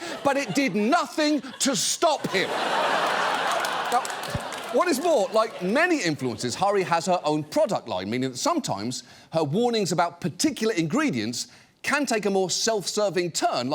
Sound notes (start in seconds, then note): 2.1 studio audience laughs, applauds